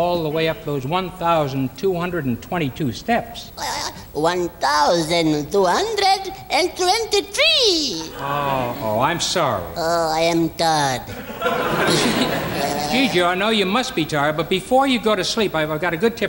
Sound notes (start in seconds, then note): 5.6 audience laughing; 11.2 gigio snoring